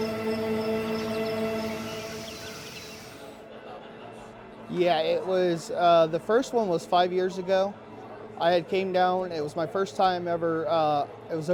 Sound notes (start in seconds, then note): 1.9 birds chirping; 3.5 people chattering